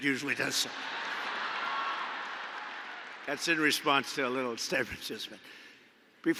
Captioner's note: laughter